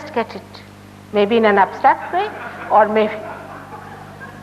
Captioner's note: murmurs of laughter from the Audience